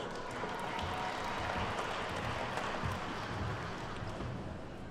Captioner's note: attendees clapping